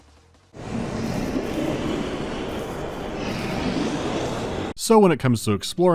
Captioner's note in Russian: демоническое рычание приближается